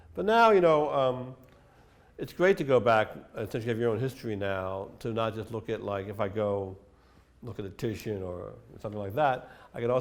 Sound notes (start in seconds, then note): none